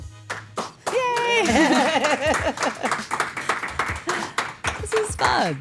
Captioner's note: crew applauds